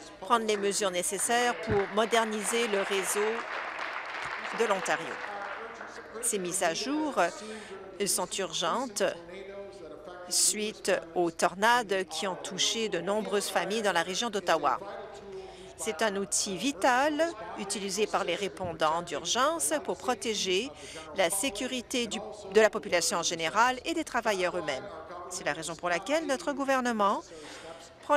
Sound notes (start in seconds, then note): 5.2 applause